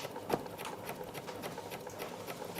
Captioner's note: rattling of a sewing machine